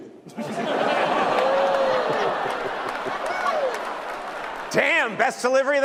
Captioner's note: laughter